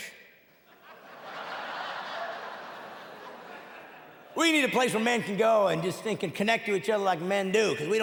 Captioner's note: audience laughing and clapping; audience laughing